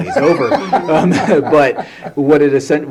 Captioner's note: laughter